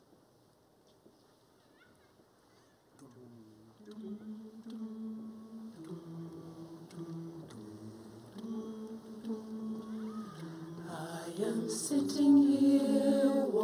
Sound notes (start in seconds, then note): 3.0 humming; 11.0 background Humming; 12.0 singing